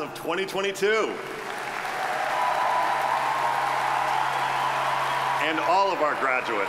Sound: audience applauding

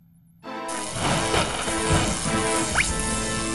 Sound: zapping

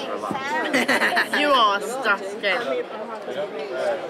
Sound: laughs

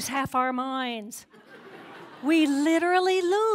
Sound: laughter

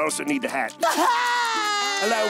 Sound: crying

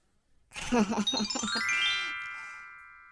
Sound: magic chime sound

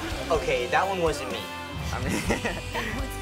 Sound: laughing

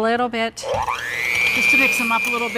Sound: mixer whirs

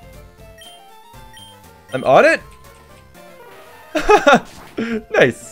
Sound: laughs

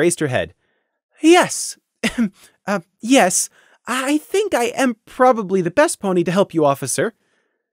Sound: ehem

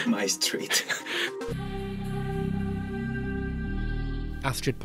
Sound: voiceover

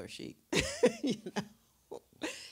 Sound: Dash laughs

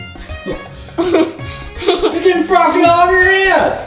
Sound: assistant giggling

